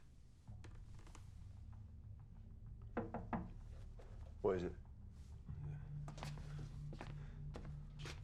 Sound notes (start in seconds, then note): 3.0 nicu taps on window